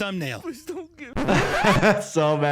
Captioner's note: tape rewinding; laughs